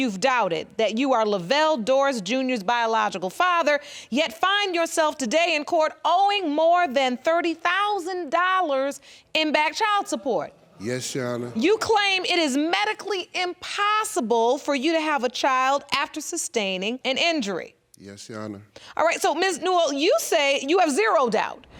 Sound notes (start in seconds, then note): none